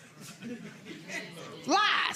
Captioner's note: audience laughing